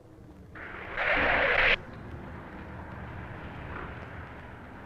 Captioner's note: doors whoosh